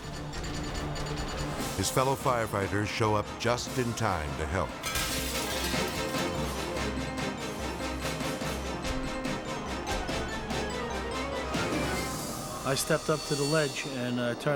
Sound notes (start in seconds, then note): 4.8 window shatters; 6.1 intense music